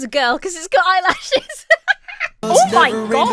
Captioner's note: Emma laughs